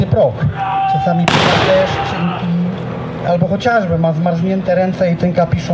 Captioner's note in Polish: Dowódca krzyczy; strzały, okrzyki bitwy